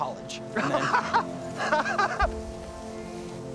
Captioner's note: laughs